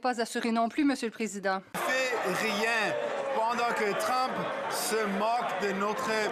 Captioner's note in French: voix de l'interprète